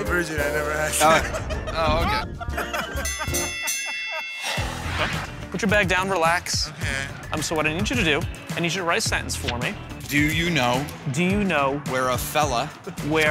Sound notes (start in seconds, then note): 3.0 ding!